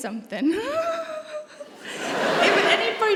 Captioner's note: laughs nervously